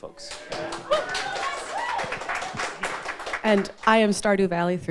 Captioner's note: audience applauding; audience whoops